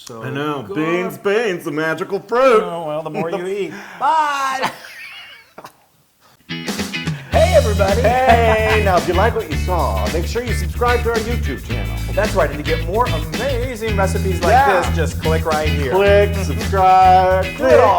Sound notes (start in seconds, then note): 4.8 laugh